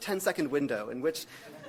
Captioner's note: audience laughs